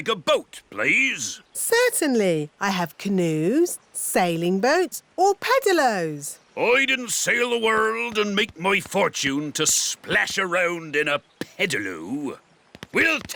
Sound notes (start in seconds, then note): none